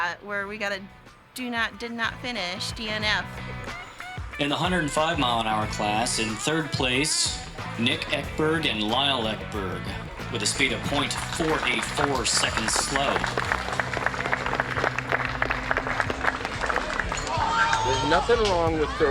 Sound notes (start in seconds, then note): 3.6 guitar music; 17.1 crowd applauds